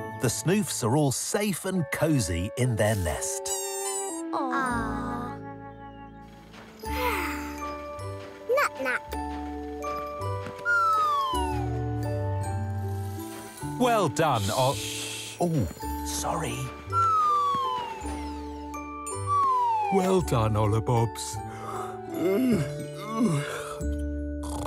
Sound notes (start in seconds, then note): 3.7 squeaking; 6.9 soft yawning; 11.0 comical music; 17.4 comical music; 22.9 soft yawning